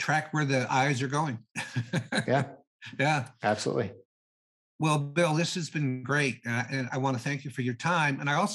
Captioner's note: laughing